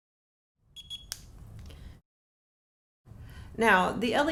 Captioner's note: beeping sound